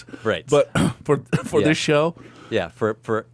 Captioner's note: laughs